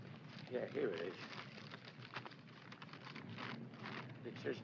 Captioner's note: paper rustling